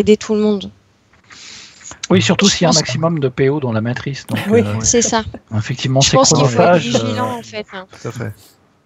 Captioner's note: laughs